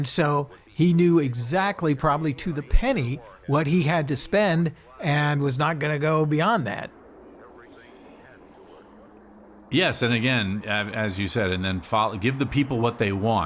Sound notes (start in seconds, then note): 7.2 rocket roaring